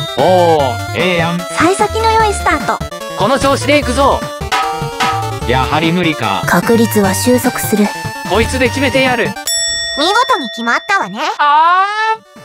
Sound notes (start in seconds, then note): 4.5 frying pan sound effect